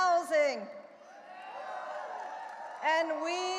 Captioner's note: audience cheering and applauding